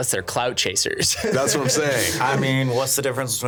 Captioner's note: laughing